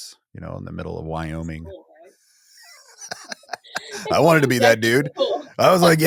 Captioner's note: laughs